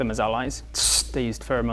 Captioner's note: sssst!